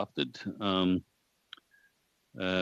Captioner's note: speaking French